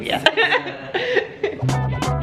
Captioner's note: laughing; upbeat music